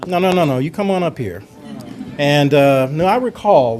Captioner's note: audience laughter